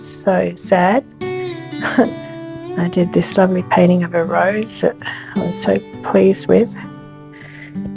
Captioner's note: laughs